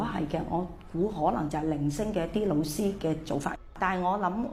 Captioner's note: Cantonese